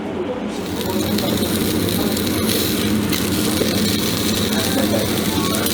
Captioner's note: sizzling